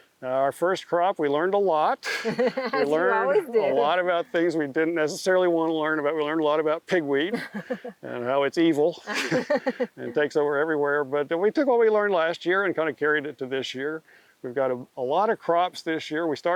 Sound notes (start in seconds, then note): 2.0 both laughing; 8.9 laughing